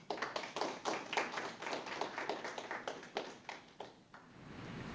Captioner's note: audience applauding